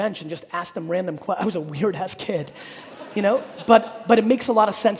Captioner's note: audience laughing